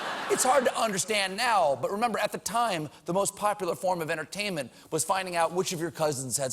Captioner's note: laughter